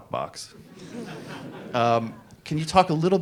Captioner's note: audience laughs